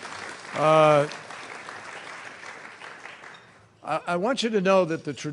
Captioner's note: applause